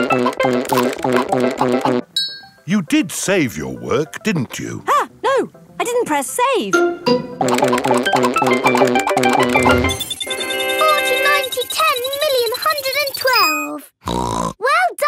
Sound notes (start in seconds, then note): 10.1 beeping; 14.0 snorts